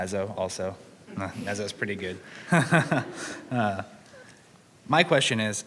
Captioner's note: laughs